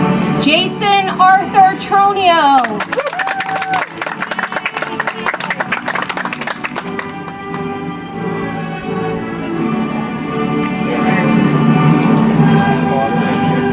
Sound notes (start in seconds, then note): 6.3 audience applauds; 11.0 soft music